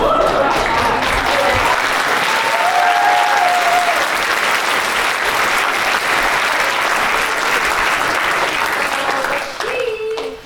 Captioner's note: applause